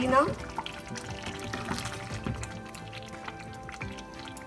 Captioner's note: chicken korma bubbles